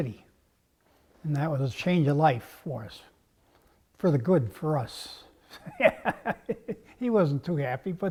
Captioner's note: laugh